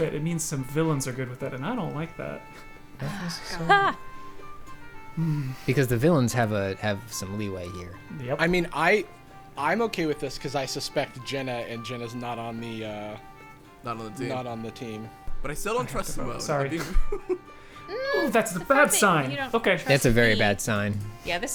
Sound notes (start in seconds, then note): 5.8 pat; 20.0 pat